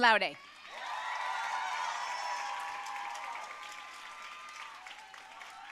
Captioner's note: audience cheering and applauding